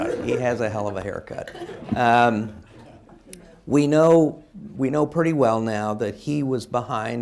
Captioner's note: laughter